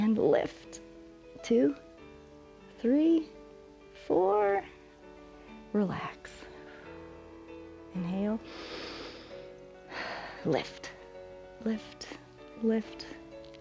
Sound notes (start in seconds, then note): 8.4 inhales and exhales